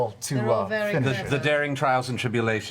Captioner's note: sarcastic